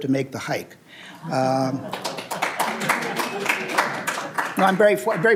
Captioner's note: applause